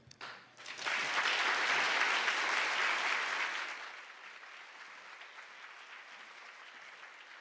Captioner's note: applause